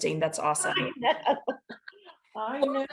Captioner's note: laughs